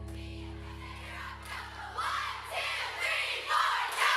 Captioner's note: chanting